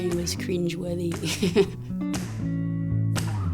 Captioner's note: chuckles